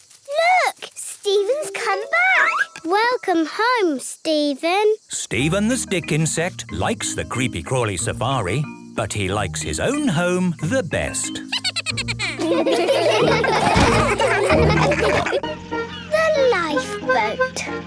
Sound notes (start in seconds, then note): 11.4 Steven giggles; 13.4 all laughing